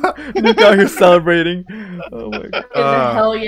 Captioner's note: laughs